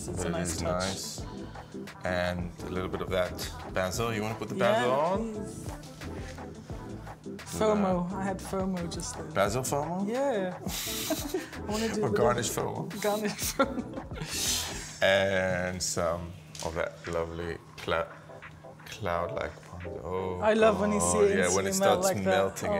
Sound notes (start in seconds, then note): 5.8 upbeat music; 10.7 Yotam laughing; 13.0 laughing